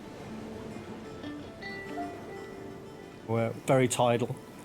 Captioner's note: gentle music continues; water sloshing